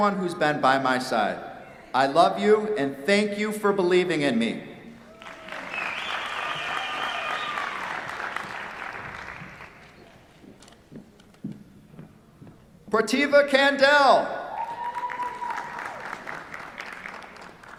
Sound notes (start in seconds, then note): 5.0 applause; 14.4 cheers, applause